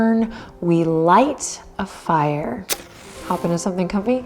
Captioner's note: match striking